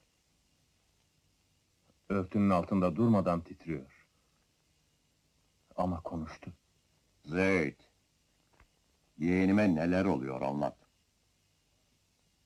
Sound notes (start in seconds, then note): none